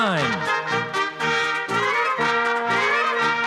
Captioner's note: orchestral music; applause; orchestral music